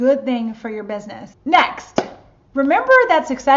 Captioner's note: claps hands